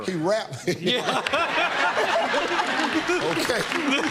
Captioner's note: laughter